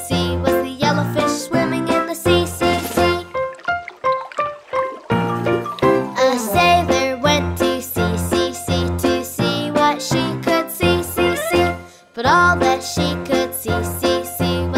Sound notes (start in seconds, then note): 2.0 water burbles; 3.3 bright music